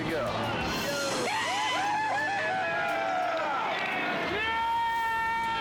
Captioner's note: people cheering